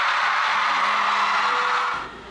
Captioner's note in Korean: 함성 미쳤다